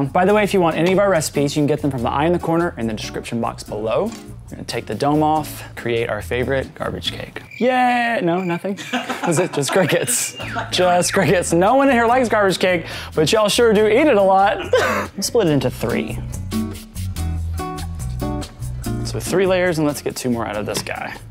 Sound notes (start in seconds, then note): 7.4 crickets chirping; 8.7 laughter